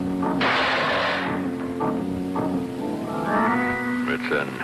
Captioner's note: Mr. Magoo thuds